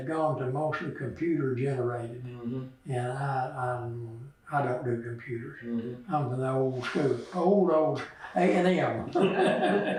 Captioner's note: laughs